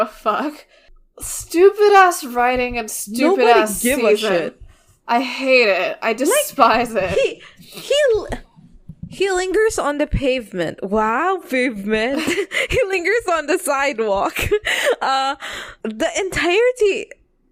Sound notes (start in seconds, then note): 11.4 laughs